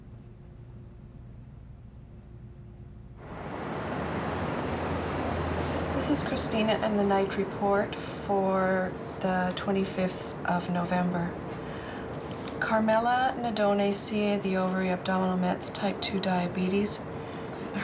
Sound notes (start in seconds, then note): none